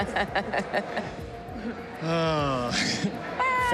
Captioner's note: laughs; sighs, chuckles